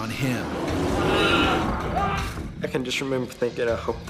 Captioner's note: yelling